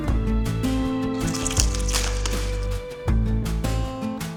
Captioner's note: branches crackling